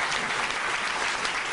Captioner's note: applause